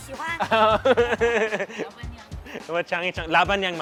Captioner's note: laughing